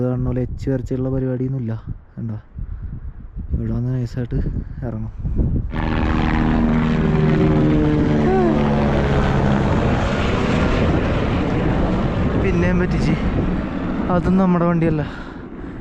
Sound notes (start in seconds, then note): 7.1 helicopter sound